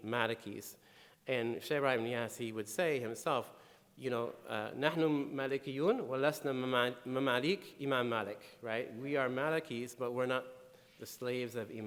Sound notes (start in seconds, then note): 4.7 speaking in foreign language